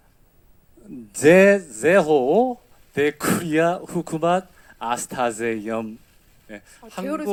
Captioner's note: speaks in Pashto